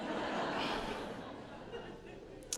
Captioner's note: laughter